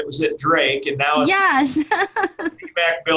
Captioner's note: laughs